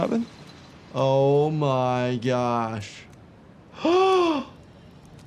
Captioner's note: gasps